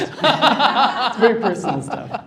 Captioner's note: laughter